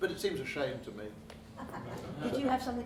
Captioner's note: laughing